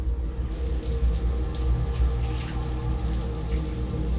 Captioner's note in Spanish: Sonido del agua al caer